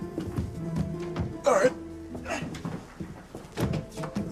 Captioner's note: grunts